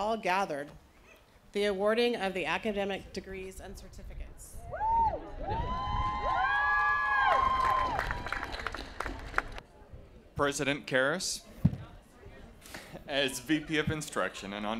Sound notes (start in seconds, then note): 4.6 cheering